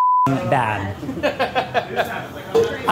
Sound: laughing

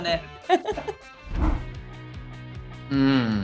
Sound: Daisy laughs

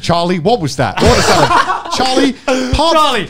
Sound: men laughing

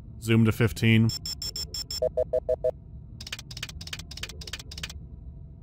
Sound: clicking and beeping

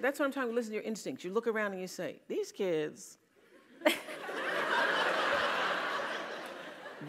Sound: laugh

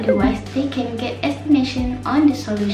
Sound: wrong blam sound

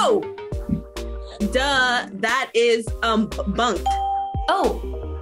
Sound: bell rings

